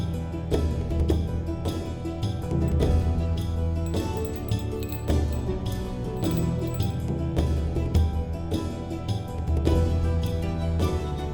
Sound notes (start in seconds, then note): 3.8 bells jingling; 7.1 lively bardic music continues